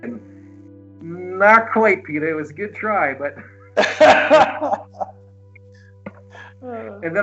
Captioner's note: laughs